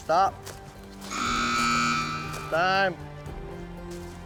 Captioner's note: buzzer sounds